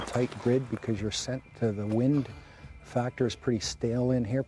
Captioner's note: voiceover